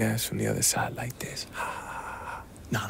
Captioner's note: whisper